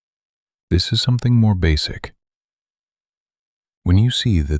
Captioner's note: short pause